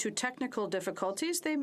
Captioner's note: speaking French